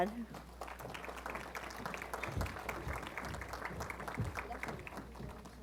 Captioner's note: applause